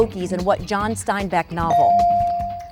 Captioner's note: bell dinging